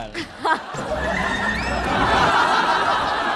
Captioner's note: hahahaha